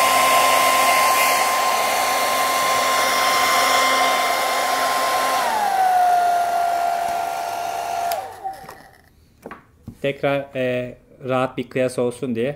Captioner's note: hair Dryer Sound